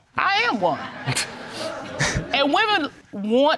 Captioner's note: audience laughing